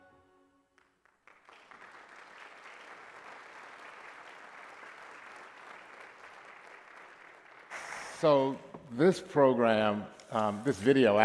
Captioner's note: applause